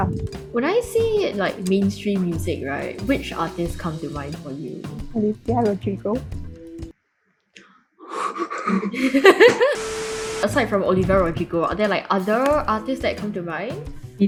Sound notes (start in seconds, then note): 8.0 heavy gasps and laughing; 9.7 TV static